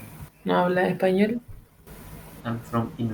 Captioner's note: Spanish